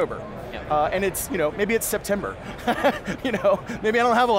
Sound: laughing

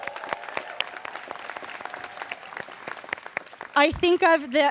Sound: students cheering

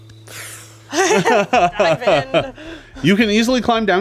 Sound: laughs

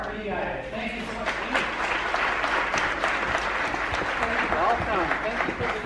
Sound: audience clapping

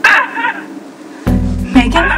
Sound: voice on phone sobs

